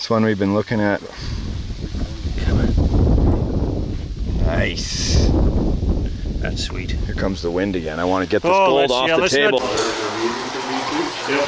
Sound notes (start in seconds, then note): 1.0 wind blowing